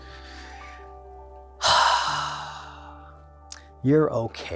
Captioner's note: sighs deeply